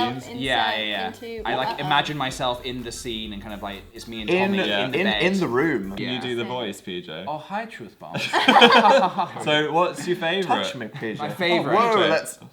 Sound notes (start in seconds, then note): 7.3 does the voice; 8.2 creepy laugh